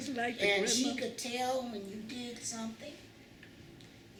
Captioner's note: none